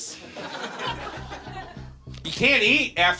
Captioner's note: audience laughs